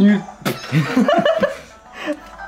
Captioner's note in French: Rires